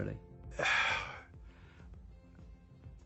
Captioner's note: sighs